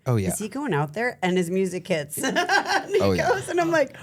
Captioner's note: laughs